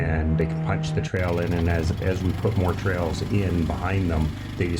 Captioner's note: snow mobile engine revving